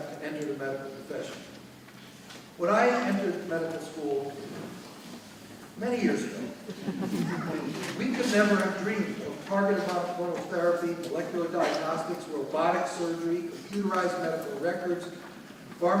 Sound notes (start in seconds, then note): 6.4 audience laughing